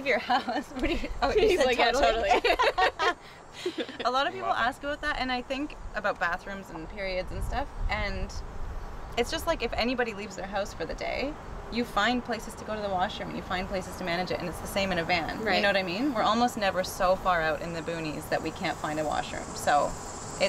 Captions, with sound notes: If you leave your house. What are you- oh, you said totally? He said totally. [chuckle] A lot of people ask about that and I think about bathrooms and periods and stuff. And it's just like if anybody leaves their house for the day. You find places to go to the wash room. You find places to manage and it's the same in a van. Right. You know what I mean? We are almost never so far out in the boonies that we can't find a washroom.